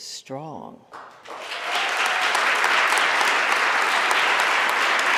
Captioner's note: audience applauding